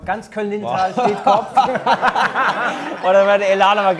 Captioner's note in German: Lachen